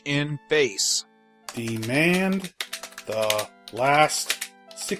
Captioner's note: typing on keyboard